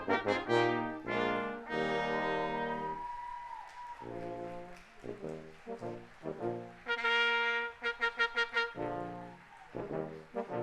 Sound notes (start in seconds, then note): 0.0 audience cheering; 0.1 audience applauding